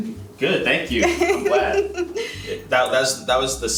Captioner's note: laughing